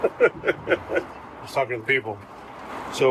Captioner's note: laughs